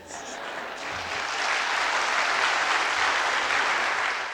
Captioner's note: applause